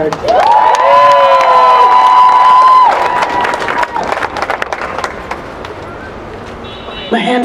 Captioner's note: applause